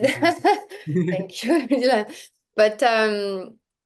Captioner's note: laughs